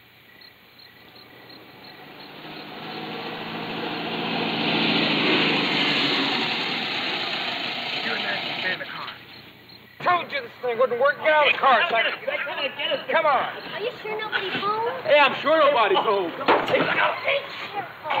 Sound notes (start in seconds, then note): 0.9 engine sound approaching; 9.6 bickering